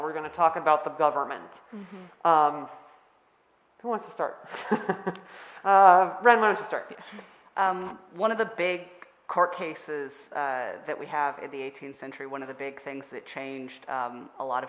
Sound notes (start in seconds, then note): 4.9 laughing